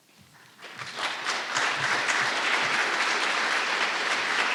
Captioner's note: audience applauding